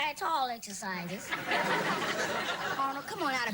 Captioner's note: sitcom laughter